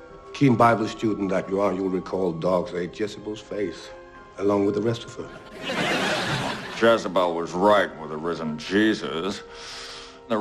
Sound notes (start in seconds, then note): 5.2 laugh track